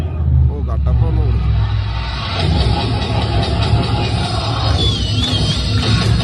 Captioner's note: applause